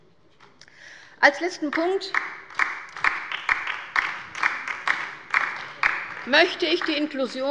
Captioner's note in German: Beifall bei der LINKEN